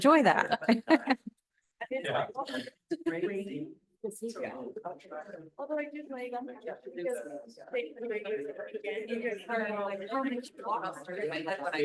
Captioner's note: laughter